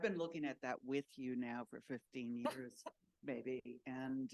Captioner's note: laughs